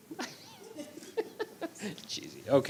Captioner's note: laughing